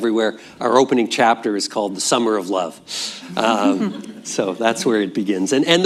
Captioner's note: laughter